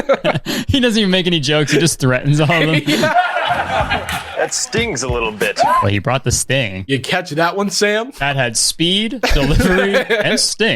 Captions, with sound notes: - He doesn't even make any jokes. He just threatens all of them. (group laughs) - That stings a little bit. - Well he brought the sting. - You catch that one Sam? - That had speed, delivery, and sting.